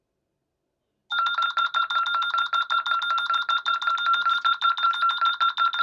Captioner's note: ringing